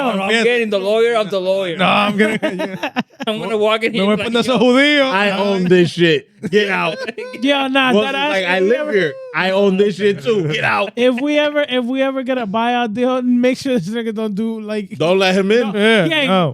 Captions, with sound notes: I'm getting the lawyer of the lawyer. No, I'm getting-- (Laughing) I'm gonna walk in here like-- I'm gonna put this whole video on. I own this shit. Get out. (Speaking Foreign Language) Well, it's like I live here. I own this shit too. Get out. If we ever get a buyout deal, make sure that you don't do like-- Don't let him in. Yeah, no.